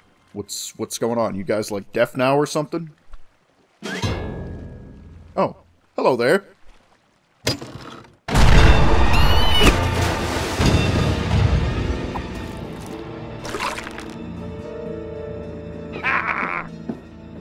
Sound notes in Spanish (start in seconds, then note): 9.0 screech